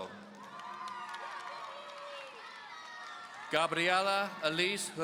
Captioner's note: audience cheering